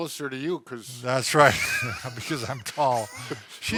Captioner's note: wheezes